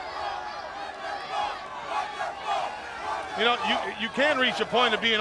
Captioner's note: crowd cheering